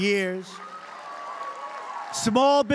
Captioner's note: applause